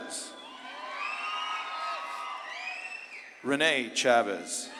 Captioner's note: audience claps and cheers